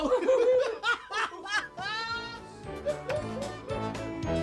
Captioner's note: Doink and Dink laughing; cheerful circus music